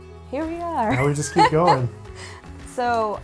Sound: laughs

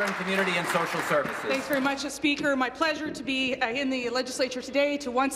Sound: applause

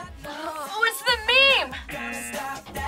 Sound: buzzer

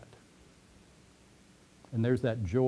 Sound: pause

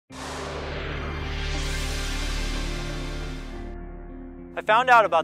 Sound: sweeping sound effect

